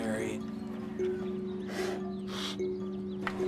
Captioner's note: slurping